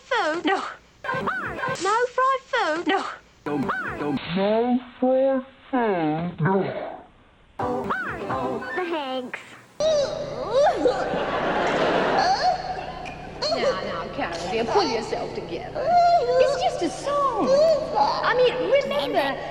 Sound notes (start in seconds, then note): 9.8 crying